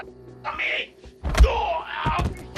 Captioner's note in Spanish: Quejido